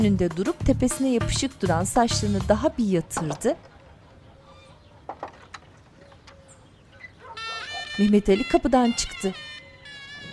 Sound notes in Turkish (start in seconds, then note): 2.9 Kapı vurma sesi